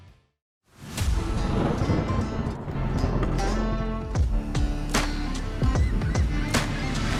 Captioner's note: thunder claps; upbeat music